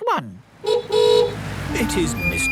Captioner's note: horn honking